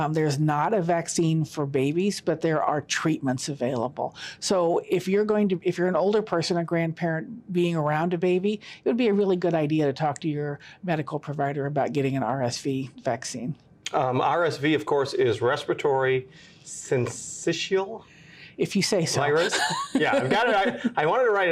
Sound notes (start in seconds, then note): 19.3 laughs